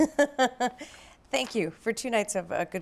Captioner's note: laughs